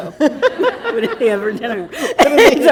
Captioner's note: laughter